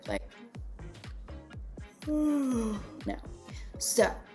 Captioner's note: yawns